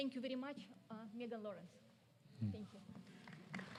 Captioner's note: applause